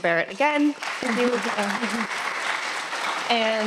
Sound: audience applauding

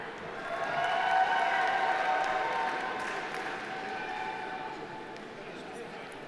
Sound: audience applauding; audience cheering

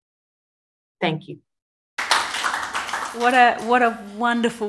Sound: clapping

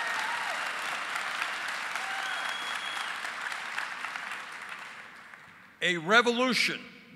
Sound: applause

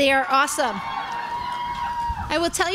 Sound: crowd cheering

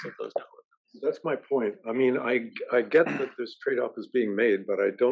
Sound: cough

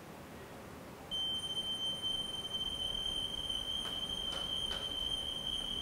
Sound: whistling

